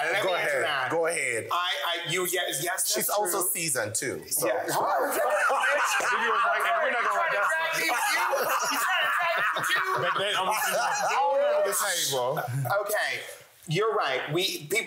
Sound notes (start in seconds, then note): 3.9 laughs